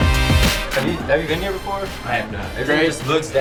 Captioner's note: voiceover